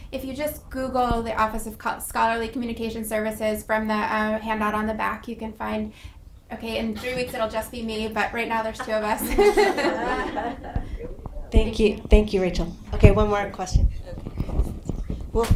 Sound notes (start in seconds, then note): 8.5 laughing